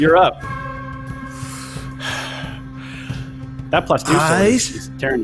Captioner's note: exhales loudly